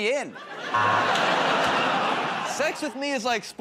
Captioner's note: laughter, buzzer